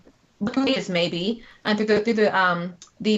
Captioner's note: technical interference